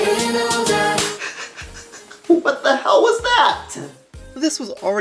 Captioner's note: laughing